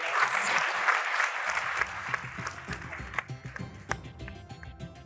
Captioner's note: audience applauds